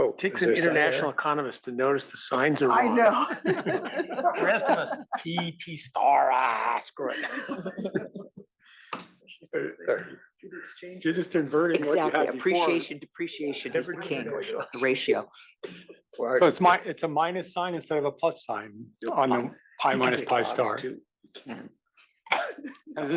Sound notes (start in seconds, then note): 2.6 laugh